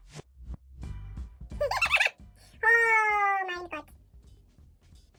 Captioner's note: laughs in German